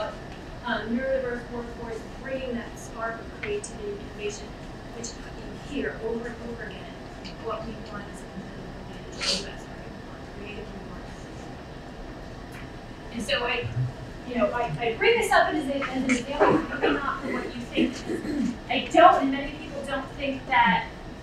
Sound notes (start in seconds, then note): 8.1 speaking away from mic; 11.7 speaking away from mic; 15.8 coughing drowns out speech